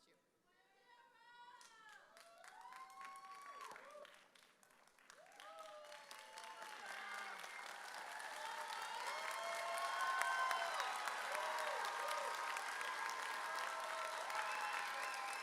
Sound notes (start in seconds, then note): 1.2 audience cheers